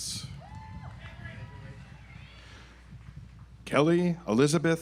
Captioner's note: audience applauds